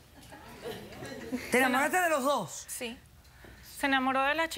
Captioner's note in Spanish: Risas del público